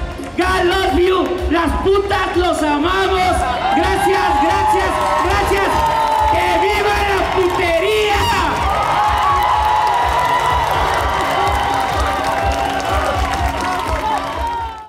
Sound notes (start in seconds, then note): 2.1 speaks Spanish; 6.9 speaks Spanish; 8.5 cheers